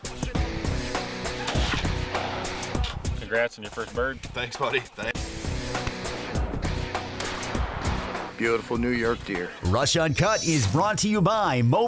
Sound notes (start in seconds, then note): 1.4 gun firing; 7.1 gun firing